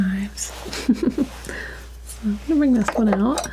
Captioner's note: laughter